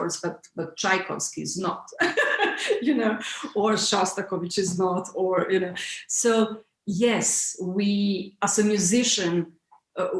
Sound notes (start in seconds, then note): 2.0 laughs